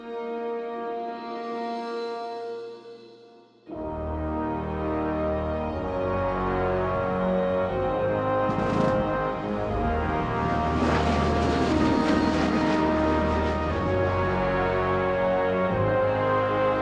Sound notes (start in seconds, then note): 10.8 engines roaring; 14.0 exciting music